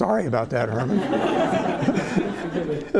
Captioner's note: laughter